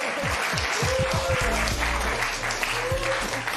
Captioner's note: applause